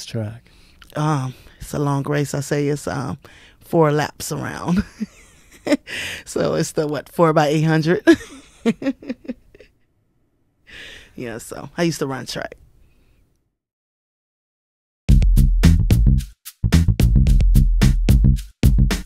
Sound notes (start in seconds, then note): 8.1 laughs